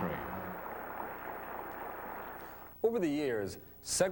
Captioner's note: group applauds